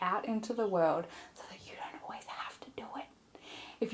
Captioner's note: whispers